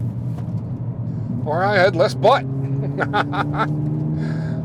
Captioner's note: laughs